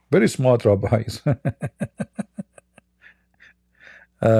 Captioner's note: Ketawa